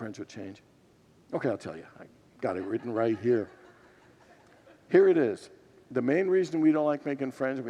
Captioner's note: congregants laugh